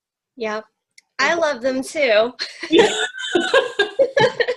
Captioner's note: laughs